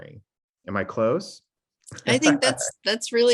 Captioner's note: chuckles